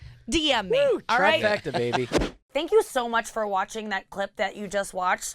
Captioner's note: whooshing